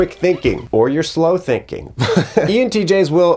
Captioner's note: laughs